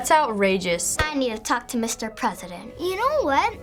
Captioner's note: sternly